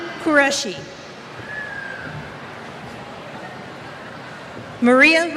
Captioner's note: cheers